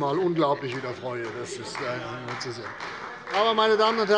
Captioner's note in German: Beifall bei Abgeordneten der CDU